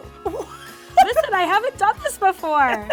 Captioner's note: laughs